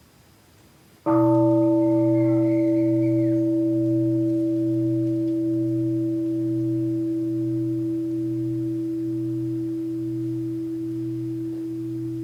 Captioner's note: the bell is invited to sound